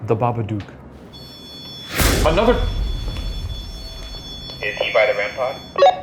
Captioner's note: REM-Pod beeping